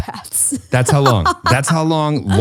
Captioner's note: laughs